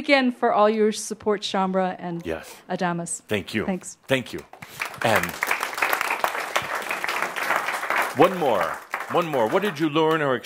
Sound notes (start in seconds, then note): 4.5 audience applause